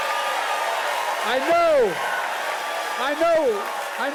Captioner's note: applause